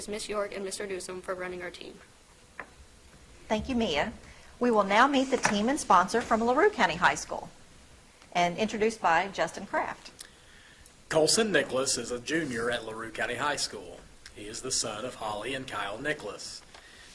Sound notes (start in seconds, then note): none